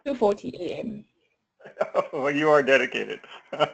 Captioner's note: laugh